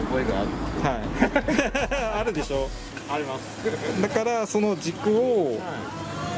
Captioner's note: laughs